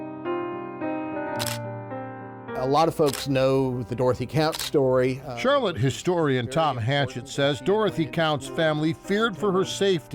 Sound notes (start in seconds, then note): 0.2 mellow music; 1.3 camera shutter clicks